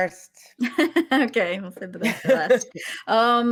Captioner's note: laughs